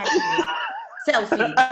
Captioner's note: laughs